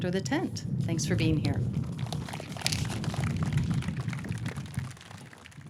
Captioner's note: audience clapping